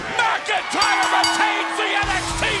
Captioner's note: bell ringing